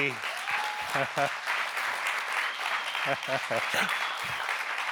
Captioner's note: audience members applauding; laughing